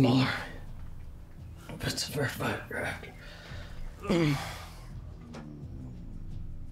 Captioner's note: groans